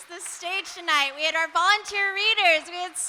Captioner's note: audience applauding